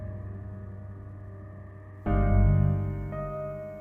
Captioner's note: none